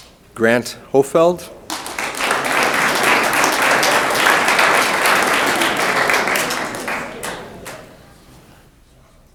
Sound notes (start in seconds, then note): 1.6 room applauds